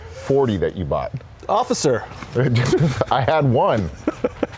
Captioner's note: laughs